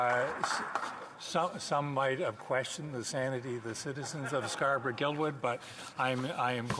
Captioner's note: applause